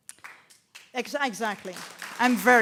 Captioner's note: applause